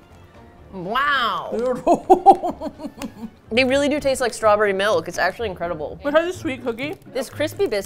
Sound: laughs with delight

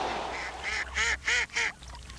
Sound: ducks calls

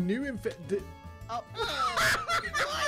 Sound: laughing

